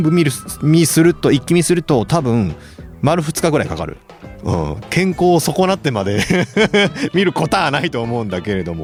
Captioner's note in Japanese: 笑い